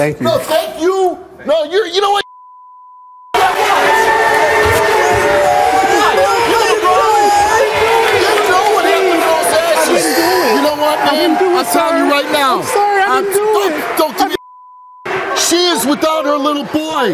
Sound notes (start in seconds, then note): 3.4 audience applause